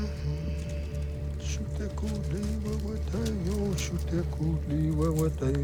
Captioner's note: chanting; hums